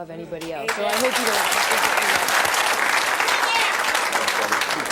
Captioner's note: applause